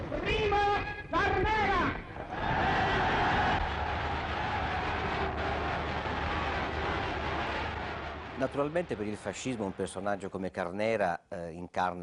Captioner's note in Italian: Applauso